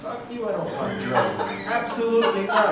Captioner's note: laughing